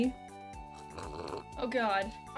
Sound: slurp

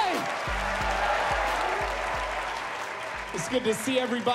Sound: cheers and applause

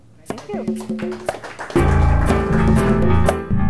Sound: audience applause

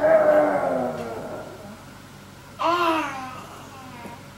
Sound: growling

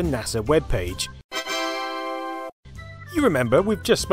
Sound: Windows triumphant sound!

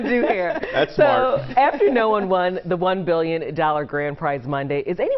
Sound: laughter

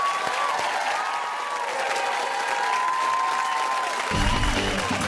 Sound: cheers and applause

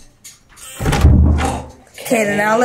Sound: buzz and loud click

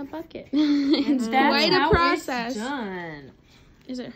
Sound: laughs

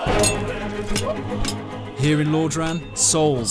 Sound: swords clinking

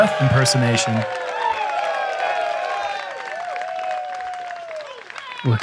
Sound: applause

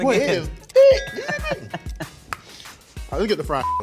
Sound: laughs

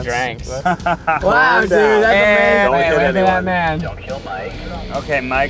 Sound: chatter in the backseat

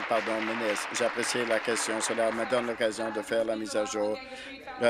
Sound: applause

